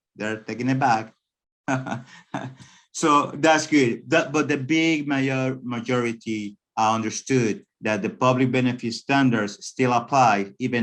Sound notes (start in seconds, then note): 1.7 laughing